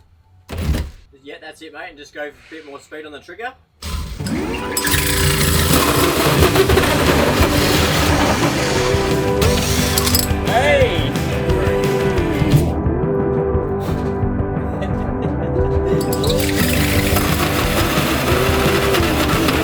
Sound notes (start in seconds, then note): 3.8 drill whirring; 7.0 upbeat music; 12.1 upbeat music continues; 16.0 drill whirring